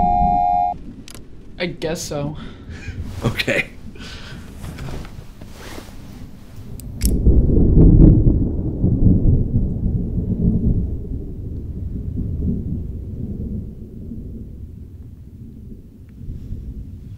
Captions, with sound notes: - I guess so. - (laughs) Okay. (switch clicking) (thunder rumbling)